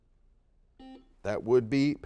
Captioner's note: beeps